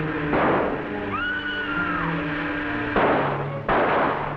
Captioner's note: guns firing; Jean screaming; guns firing